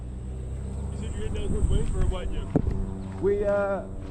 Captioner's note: car overlaps dialogue